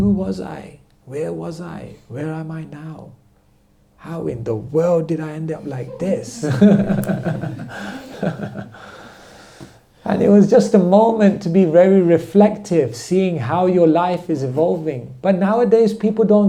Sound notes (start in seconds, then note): 5.7 laughter